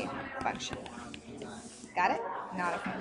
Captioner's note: stylus taps